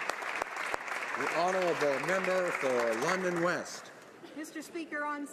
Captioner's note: applause